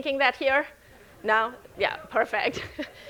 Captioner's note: audience laughing